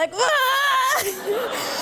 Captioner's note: laughter